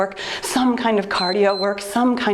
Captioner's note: timer beeps